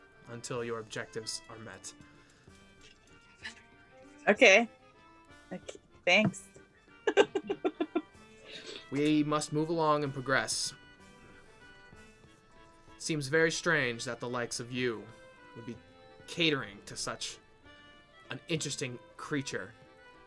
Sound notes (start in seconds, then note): 7.0 laughs